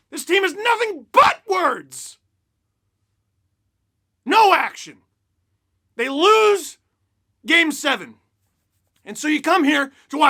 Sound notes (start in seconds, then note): none